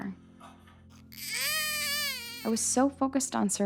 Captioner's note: baby crying